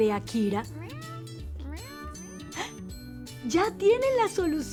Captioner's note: meowing